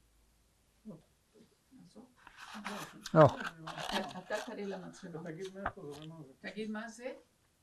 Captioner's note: hebrew